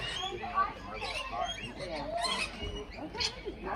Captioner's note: birds tweeting